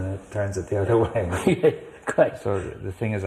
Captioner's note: laughs